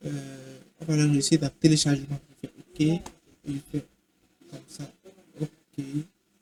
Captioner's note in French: raclement de gorge